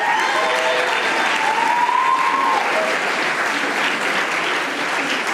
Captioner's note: audience applauding